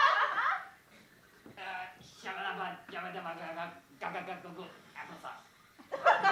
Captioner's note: speaking in Florida